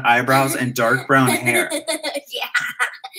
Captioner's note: laughter